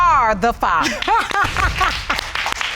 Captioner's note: laughs